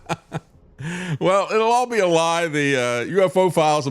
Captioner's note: laughs